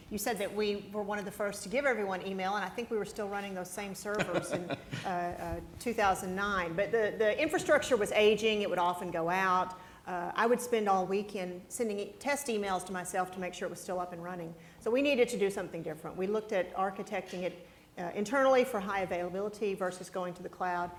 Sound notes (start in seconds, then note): 4.1 presenter laughs